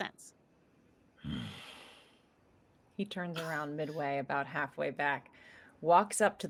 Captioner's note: grunts